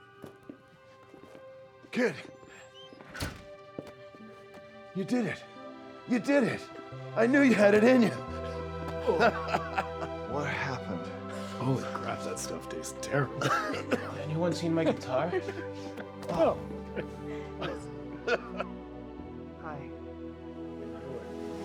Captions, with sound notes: - Kid. You did it. You did it. I knew you had it in you. (laughs) - What happened? - Holy crap, that stuff tastes terrible. (Darlus coughing) - Anyone seen my guitar? Oh, hi.